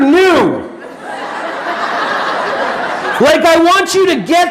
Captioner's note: audience laughing